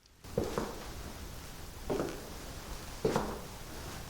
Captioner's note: footsteps clacking